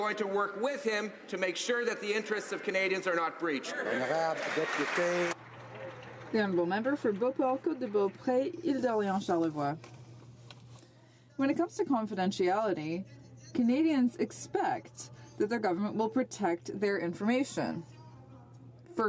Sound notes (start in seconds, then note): 8.4 some Applause